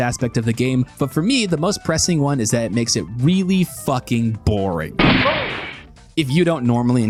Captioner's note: gunshot